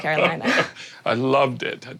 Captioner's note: laughs